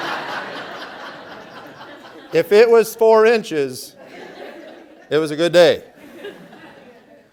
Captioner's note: laughter; laughter